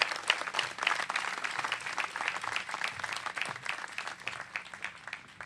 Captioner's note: applause